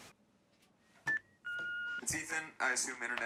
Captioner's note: machine beeping